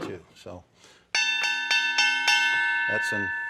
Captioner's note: ding ding ding